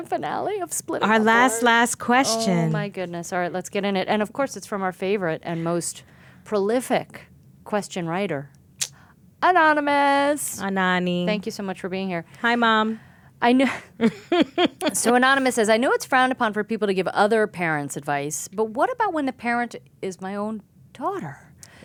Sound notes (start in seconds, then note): 14.1 laughing